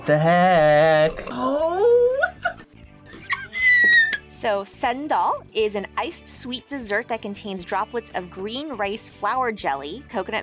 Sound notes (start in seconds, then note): 3.1 laughs